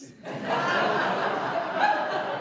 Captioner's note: laughter